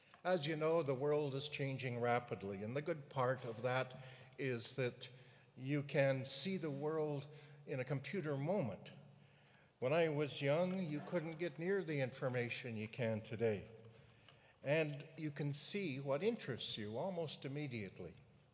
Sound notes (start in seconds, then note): none